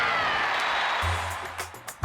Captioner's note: crowd chatting